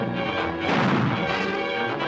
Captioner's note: gunshot